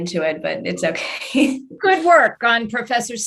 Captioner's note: chuckles